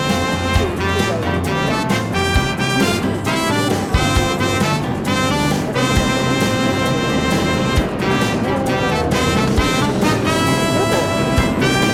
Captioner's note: laughs